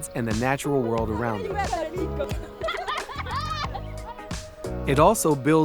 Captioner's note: group chattering; girls laughing